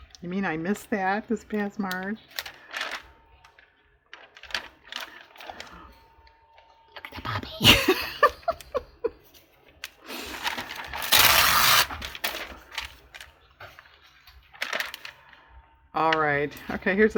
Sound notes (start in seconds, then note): 5.0 whispers; 12.9 laughs